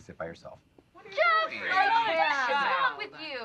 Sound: everyone arguing

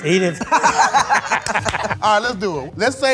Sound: all laughing

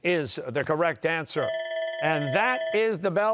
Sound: bell ringing

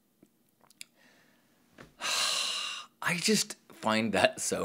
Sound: deep breath

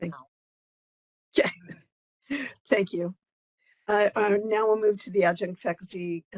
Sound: laugh

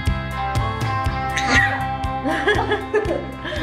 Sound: yelling; laughs

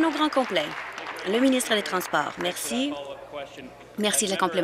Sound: applause

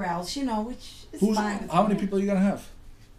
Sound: voiceover

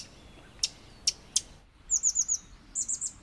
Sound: bird chirping

